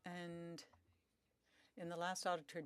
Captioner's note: speaking French